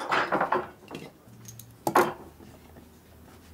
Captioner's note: working noises